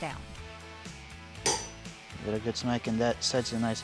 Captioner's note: hammering